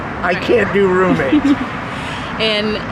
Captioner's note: laughing